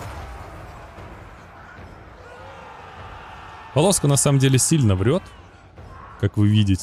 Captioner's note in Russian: крик